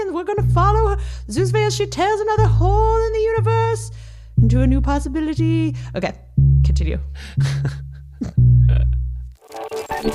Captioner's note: laughs